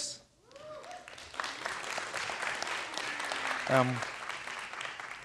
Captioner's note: students applauding